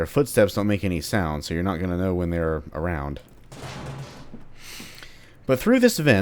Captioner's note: smashes vent